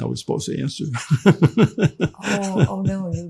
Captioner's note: laughing